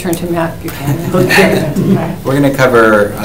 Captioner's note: attendees laugh